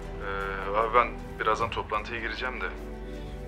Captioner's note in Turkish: Hakan ses